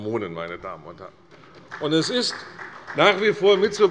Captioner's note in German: Beifall bei Abgeordneten der CDU